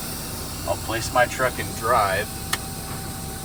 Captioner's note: gear clicking